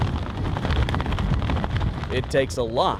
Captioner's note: wind whistling